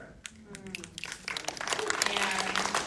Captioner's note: audience snapping and applauding